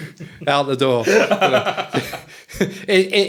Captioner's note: all laughing